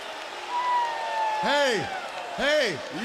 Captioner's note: crowd cheering